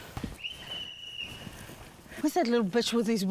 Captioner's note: whistle trills